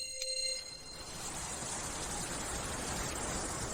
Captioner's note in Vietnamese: chuông